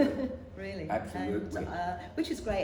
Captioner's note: laughs